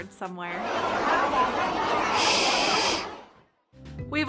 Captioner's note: bunnies murmuring